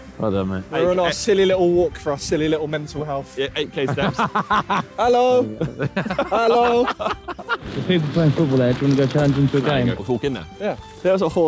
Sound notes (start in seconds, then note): 3.8 laughing; 5.2 all laughing